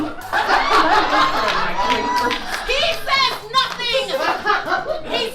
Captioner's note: audience laughs